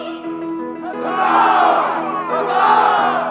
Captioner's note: crowd